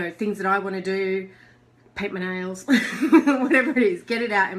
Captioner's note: laughs